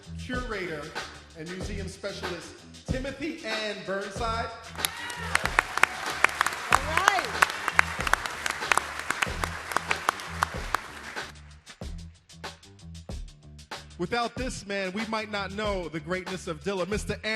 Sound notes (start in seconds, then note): 4.8 audience applauding; 10.2 applause